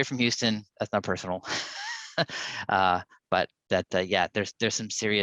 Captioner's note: chuckles